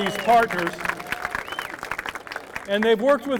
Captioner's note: applause